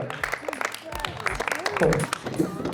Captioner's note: women clap